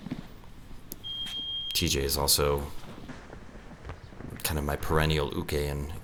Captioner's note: beep